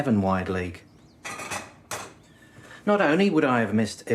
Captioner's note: plates rattle